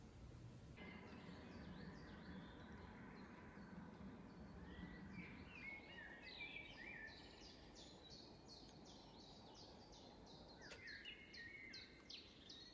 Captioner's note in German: Vogelgesang, Windgeräusche, Naturgeräusche